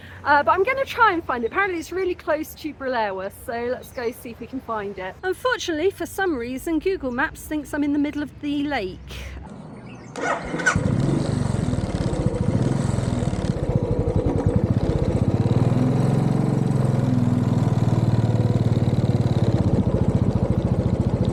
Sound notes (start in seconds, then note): 10.5 bike engine